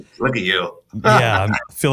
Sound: laughs

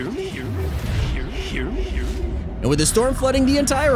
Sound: echoes

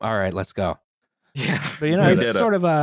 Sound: laughing

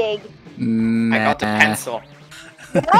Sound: laughing

